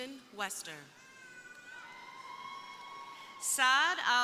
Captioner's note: crowd cheering